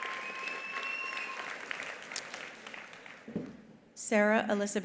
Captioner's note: attendee cheering; attendees applauding; attendee whistling